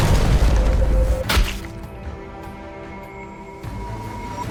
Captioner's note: splat